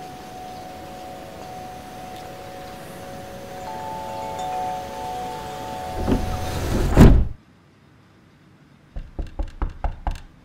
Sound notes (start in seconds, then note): 0.0 wind chimes ringing; 4.4 outer door opening and shutting; 8.9 knocking